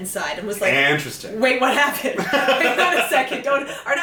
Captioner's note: laughs